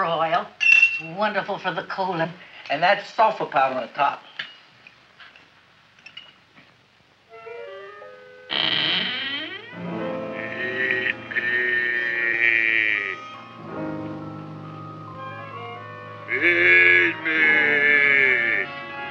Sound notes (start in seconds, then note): 7.3 mysterious music; 7.4 Audrey Jr. creaking